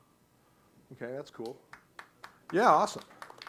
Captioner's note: applause